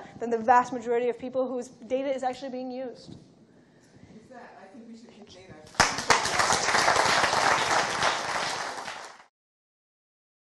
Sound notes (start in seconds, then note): 5.7 applause